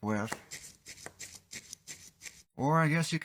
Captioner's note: tip cleaning sounds